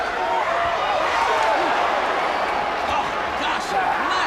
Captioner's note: crowd chatter